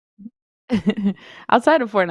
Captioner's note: laughs